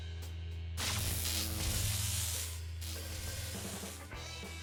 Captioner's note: electric buzz